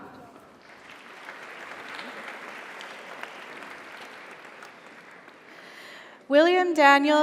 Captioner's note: audience applauds; audience cheers